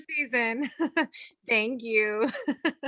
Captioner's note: giggles